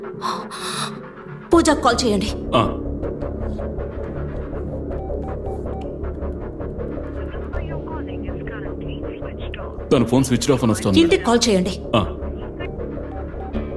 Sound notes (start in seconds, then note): none